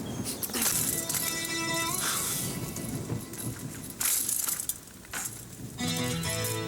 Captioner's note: light string music; thunder rumbling